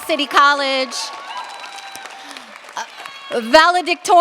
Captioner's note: cheers, applause